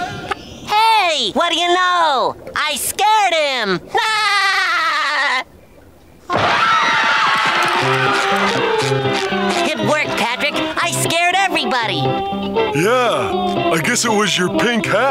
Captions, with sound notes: Hey, what do you know, I scared him! [laughing] [screaming] It worked, Patrick. I scared everybody. Yeah, I guess it was your pink hat.